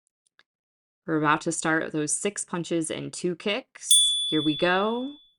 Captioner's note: chime